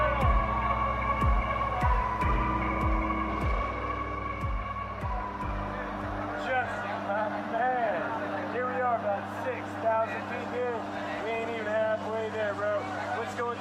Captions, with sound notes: (airplane turbine whirs) - Justin my man, here we are about six thousand feet here, we ain’t even half way there bro what's going